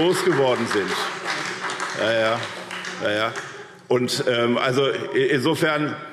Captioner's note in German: Beifall SPD